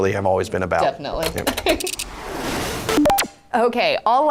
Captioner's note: gears clacking